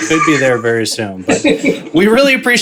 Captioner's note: laughs